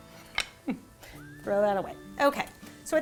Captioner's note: giggling